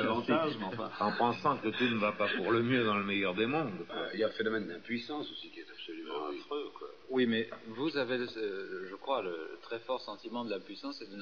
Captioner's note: risate